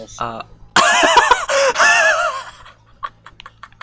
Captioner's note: laughs